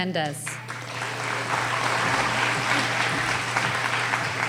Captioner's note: applauding